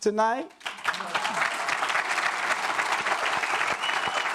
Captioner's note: audience claps